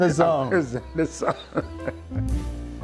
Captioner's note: laughing